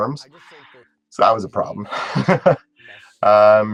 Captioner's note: laugh